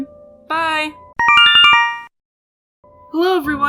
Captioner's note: Yume Nikki instructions sound